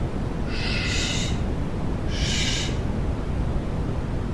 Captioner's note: overlapping "shhhs"